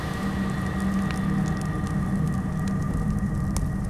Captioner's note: fire crackling